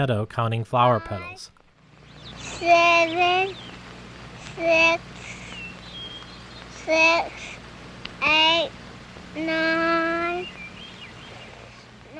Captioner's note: child counting